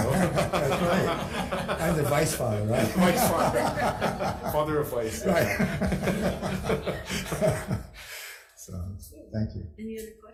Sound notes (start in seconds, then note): 0.1 all laughing; 3.2 all laughing; 6.6 all chuckling